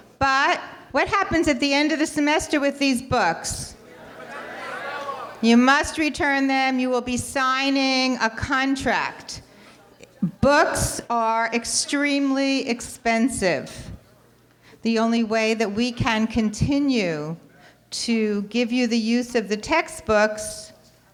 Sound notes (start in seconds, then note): 4.0 audience clamoring